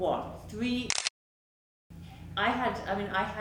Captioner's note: camera clicks